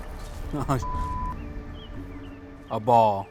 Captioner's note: dramatic music; footsteps; birds chirping; beep